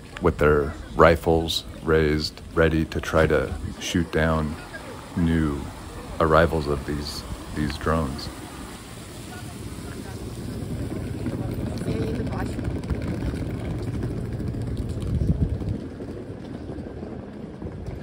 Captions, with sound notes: with their rifles raised ready to try to shoot down new arrivals of these drones. [water trickling] [bus rumbling] [speaking in Ukrainian]